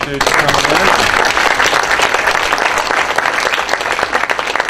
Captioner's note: applause